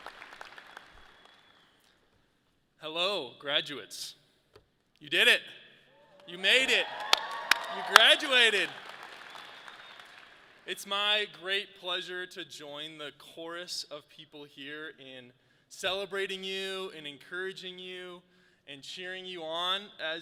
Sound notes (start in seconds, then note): 6.4 audience claps